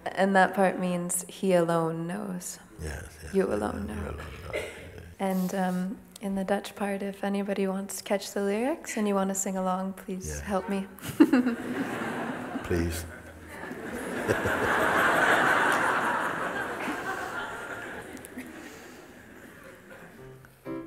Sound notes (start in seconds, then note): 15.8 laughter